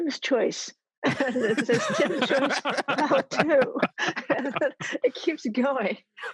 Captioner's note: all laugh